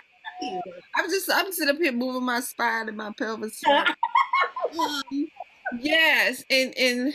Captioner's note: laughter